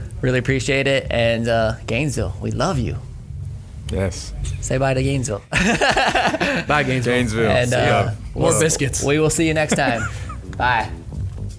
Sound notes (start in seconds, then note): 5.5 laughing